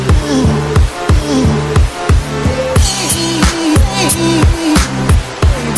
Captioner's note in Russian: шум водопада